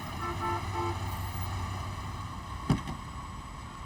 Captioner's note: car horn honking